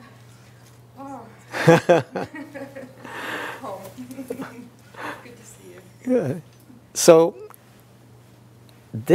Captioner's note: laughter